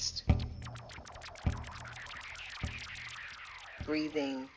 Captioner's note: electronic sound effects